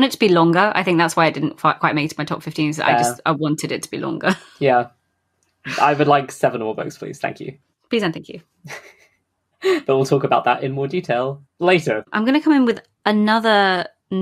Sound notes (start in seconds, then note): 9.7 laughing